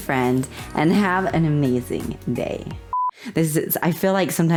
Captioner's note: blooper beep